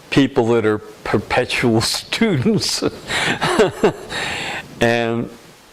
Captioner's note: laughter